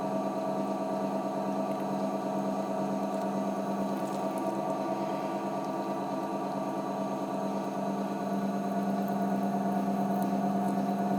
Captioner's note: low motor turning and bubbles popping